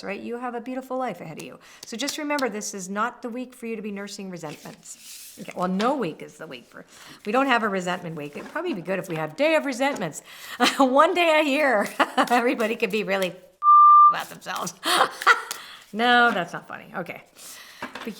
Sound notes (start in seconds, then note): 13.6 beep; 14.8 laughs